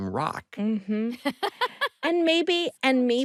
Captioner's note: laughs